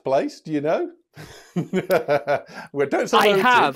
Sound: laughs

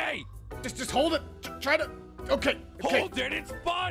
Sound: suttering

